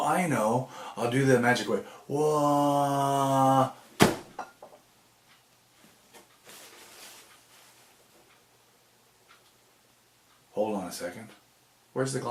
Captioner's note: splat!